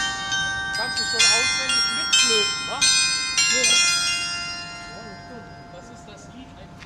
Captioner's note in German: glocke; glocke